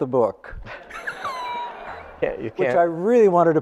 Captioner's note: audience laughing